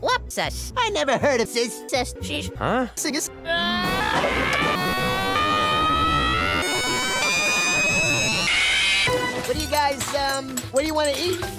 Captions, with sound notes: What sess? I never heard of Sess! Sess! Sheesh! Huh? sees! *Screaming* What do you guys, um... What do you wanna eat?